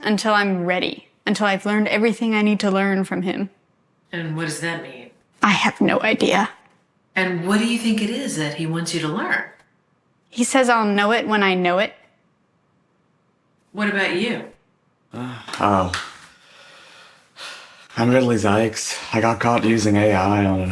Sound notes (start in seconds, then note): 17.1 sighs